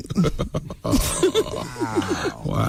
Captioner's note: laughing